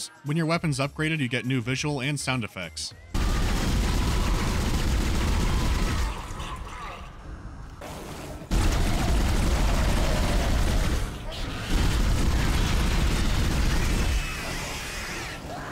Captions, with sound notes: When you weapon’s upgraded, you get new visual and sound effects. [pewpewpewpewpew] [slightly faster pewpewpew]